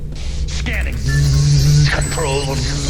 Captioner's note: HACKER MAN: SCANNING ZZZZZZZZZZZZZZZZ x2